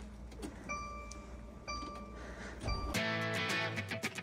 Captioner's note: electronic beeping; energetic music